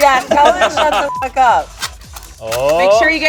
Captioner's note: beep